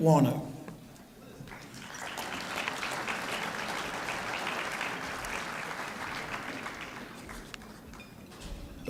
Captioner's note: applause